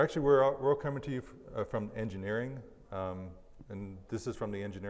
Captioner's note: none